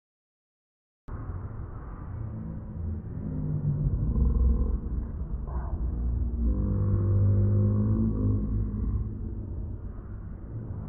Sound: beast growl

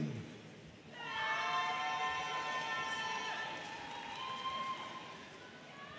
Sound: audience cheering and applauding

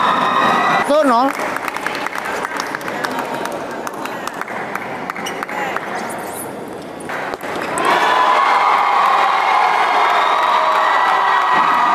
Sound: applause

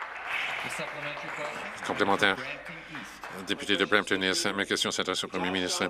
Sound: some Applause

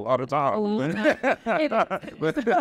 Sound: all laughing

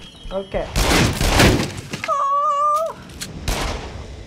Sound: gunshots, wood splintering; wood splintering; whimpers; gunshot

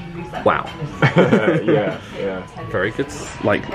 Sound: they laugh

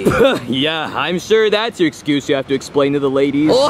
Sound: sputters

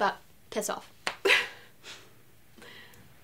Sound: laughter

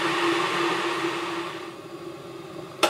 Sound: kettle fades

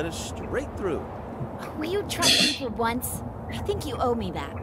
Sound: laughs softly

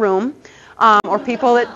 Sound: audience laughter

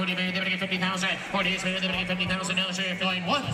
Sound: auctioneer chant

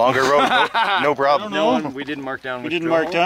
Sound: laughing

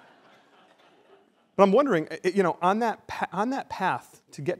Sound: laughter

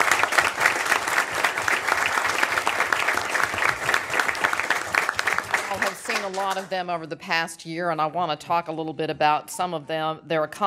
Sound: applause

